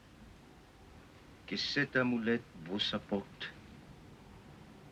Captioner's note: speaking french